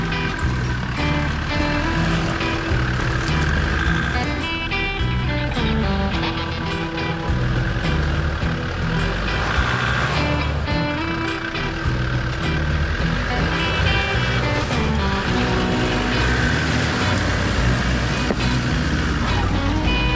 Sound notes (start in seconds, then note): 0.2 upbeat jazz music continues; 9.6 engine revs